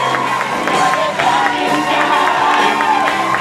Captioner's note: audience cheers and applause